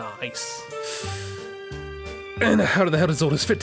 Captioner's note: breathes in